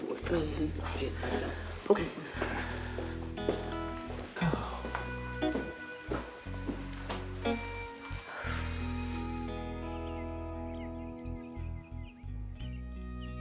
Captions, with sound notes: - Mm-hmm. Yeah, don't. - Okay. (Beverly sighs)